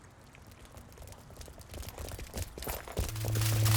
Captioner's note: rapid footsteps approaching; electronic humming